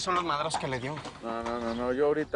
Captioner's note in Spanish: Relinchos